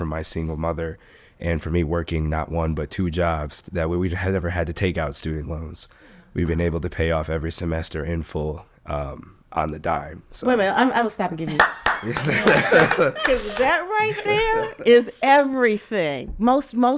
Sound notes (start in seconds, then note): 11.5 hands applauding; 11.6 applauding; 12.0 chuckling